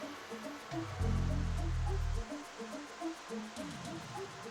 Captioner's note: mysterious music; rain falls